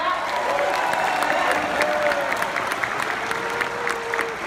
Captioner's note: clapping